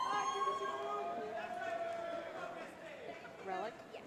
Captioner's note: cheering; shouting